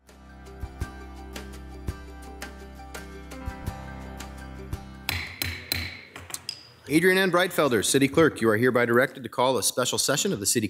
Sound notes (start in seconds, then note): 0.0 bright music; 5.0 gavel hitting